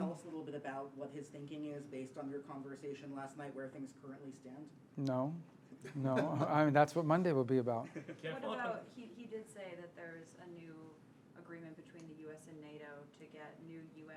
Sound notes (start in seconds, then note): 7.8 laughter